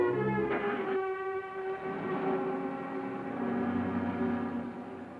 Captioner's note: car revving